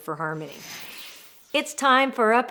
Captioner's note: air whooshing